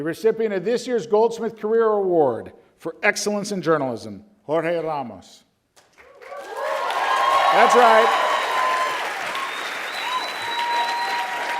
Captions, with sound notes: the recipient of this year's Goldsmith Career award for excellence in Journalism, Jorge Ramos. (audience cheers) That's right!